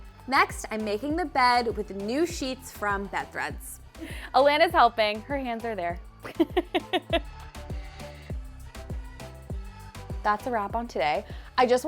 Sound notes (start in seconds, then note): 6.3 laughs